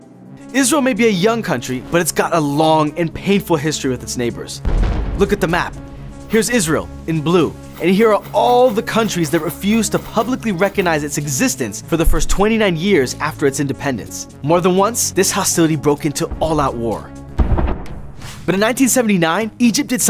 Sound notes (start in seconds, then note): 4.6 heavy artillery blasting; 17.3 heavy artillery blasts